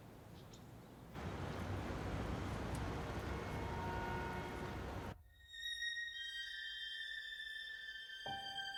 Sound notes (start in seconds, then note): 2.8 horn honking; 6.0 dramatic music